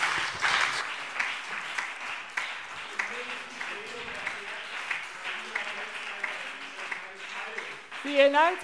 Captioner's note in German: Beifall BÜNDNIS 90/DIE GRÜNEN, CDU und SPD - Zuruf AfD